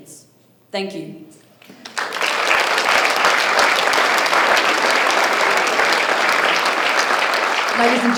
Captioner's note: applause